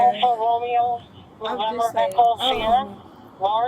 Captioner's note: radio chatter; radio chatter